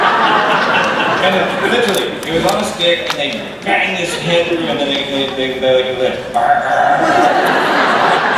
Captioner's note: growling